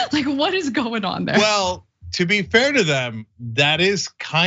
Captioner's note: laugh